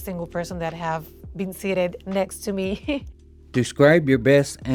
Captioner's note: chuckling